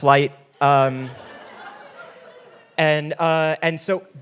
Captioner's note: audience laughing